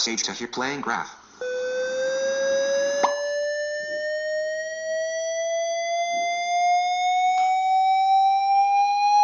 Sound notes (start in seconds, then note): 1.4 whistle cascading up with popping